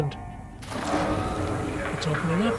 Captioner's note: scrapping